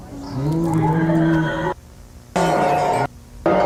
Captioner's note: screeching